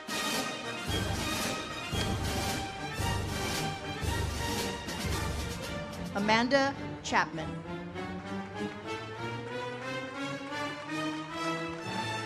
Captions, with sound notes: Amanda Chapman. (audience applauds) (uplifting music)